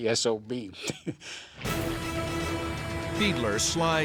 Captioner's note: laughs